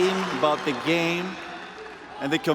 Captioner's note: cheers and applause